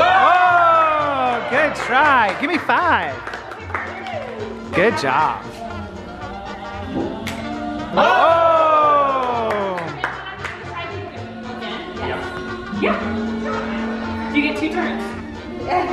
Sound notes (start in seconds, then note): 7.9 group yells; 10.5 woman asks question softly